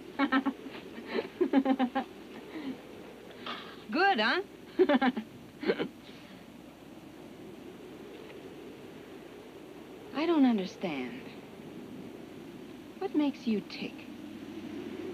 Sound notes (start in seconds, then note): 1.0 Abby laughs; 4.7 laughs